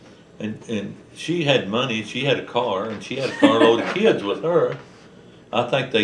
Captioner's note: laughter